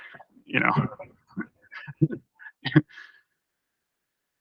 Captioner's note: laughter